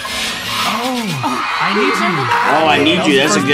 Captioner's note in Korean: 환호